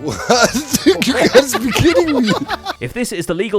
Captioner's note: crowd laughing